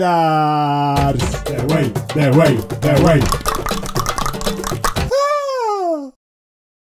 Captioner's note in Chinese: 召喚bgm再次響起; 大量彈舌